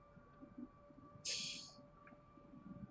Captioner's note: titters